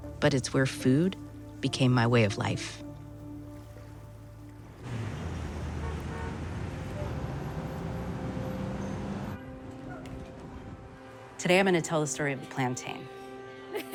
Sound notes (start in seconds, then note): 4.8 horns honking